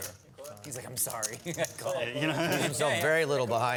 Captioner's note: laughter